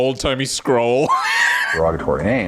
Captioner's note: laughing